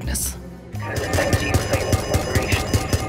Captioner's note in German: Geräusche wie von Schüssen, Alarmtöne